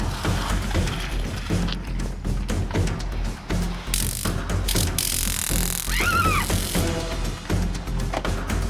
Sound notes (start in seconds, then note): 3.9 stun gun crackling; 5.8 Macy yells